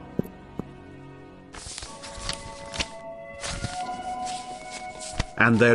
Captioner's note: more silent walking; papers being shuffled